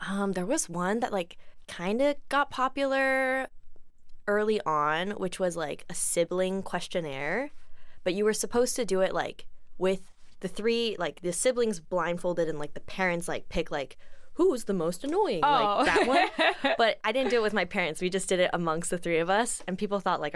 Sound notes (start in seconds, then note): 15.5 laughs